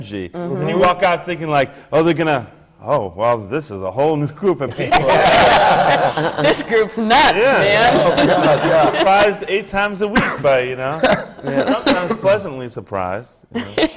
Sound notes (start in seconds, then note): 4.7 laughter